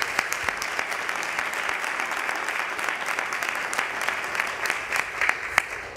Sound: applause

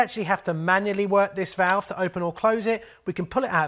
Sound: clicks

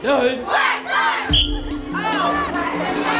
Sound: whistle; kids talking; kids yelling

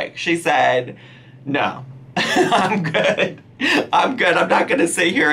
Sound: laughs

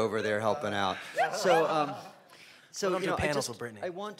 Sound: panelists laughing

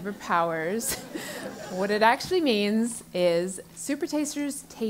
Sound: laugh

